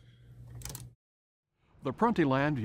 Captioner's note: switch clicks